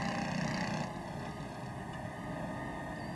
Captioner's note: tractor rumbling